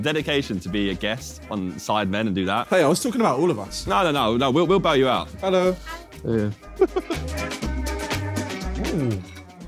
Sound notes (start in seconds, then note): 6.6 chuckling; 7.7 jolly music